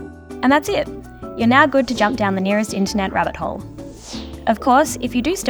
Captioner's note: whoosh